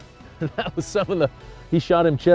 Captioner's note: laughs